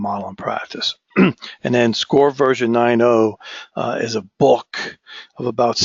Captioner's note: cough